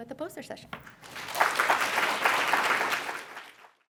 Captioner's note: applause